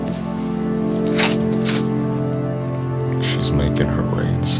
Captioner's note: crickets chirping